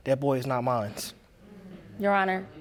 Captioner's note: audience groaning